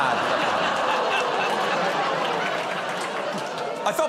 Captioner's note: laughter